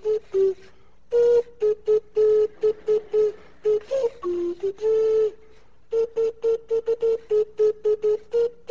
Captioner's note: class laughs quietly